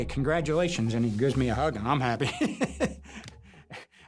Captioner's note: chuckles